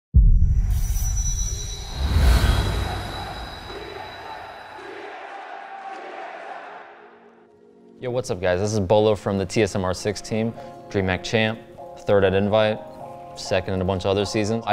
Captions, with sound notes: (dramatic music) - [Crowd] TSM! TSM! TSM! - Yo, what's up guys? This is Beaulo from the TSM R6 team dream hack champ. Third at invite, second and a bunch of other seasons